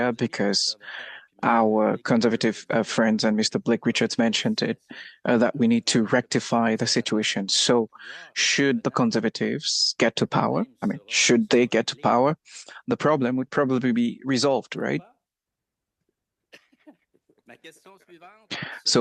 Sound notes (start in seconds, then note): 4.2 speaking French